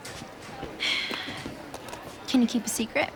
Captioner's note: sighs